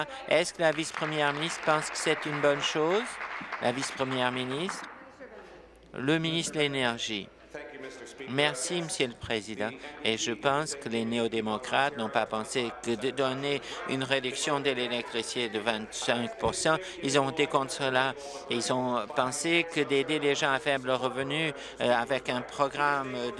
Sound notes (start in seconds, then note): 4.6 applause